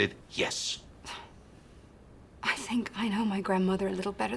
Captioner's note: sighs